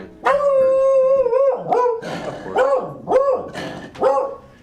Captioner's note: dog barks loudly